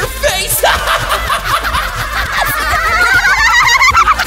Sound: all laugh; laughing accelerates

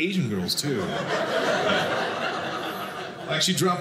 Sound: audience laughing

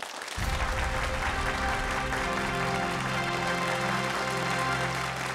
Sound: applause

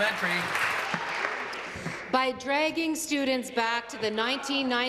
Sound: applause

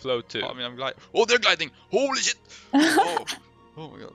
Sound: haha

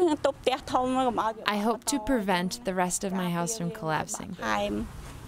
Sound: through translator

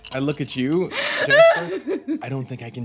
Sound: crying; dice rolling; crying

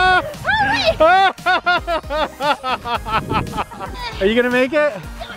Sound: everyone laughs; laughs

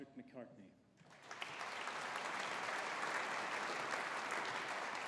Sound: audience applauding

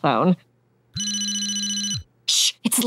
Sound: ringing

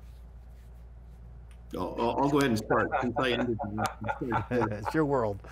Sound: laughs

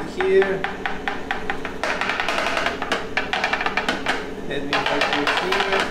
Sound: chocolate mold tapping

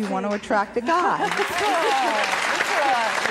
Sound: applause

